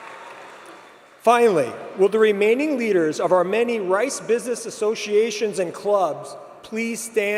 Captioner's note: applause